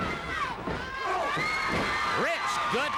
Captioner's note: crowd yelling